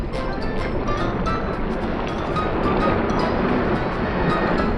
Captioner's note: water gurgling